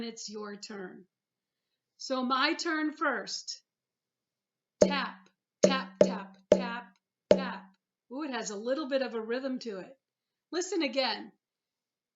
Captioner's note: tap - tap tap tap - tap